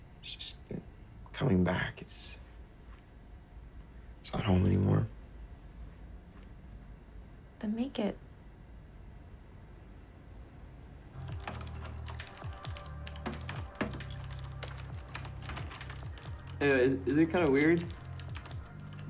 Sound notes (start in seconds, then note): 11.1 light electronic music; 13.2 keyboard clicking